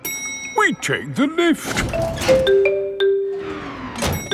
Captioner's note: elevator dings